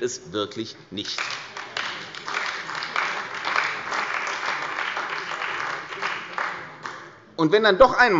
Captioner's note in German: Beifall bei der CDU und dem BÜNDNIS 90/DIE GRÜNEN